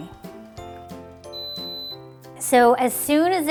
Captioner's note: beeping